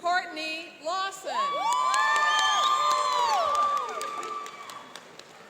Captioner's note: cheering and applauding